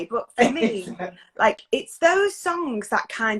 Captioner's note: laughs